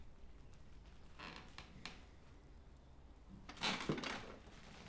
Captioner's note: chair creaking